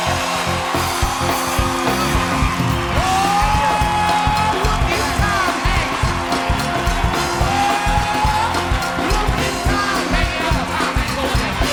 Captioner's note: applause